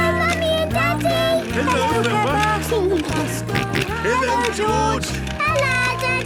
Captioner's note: George giggling and snorting